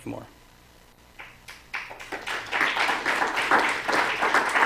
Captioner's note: applause